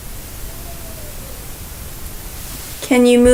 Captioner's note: faint Voice